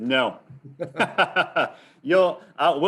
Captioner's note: laughs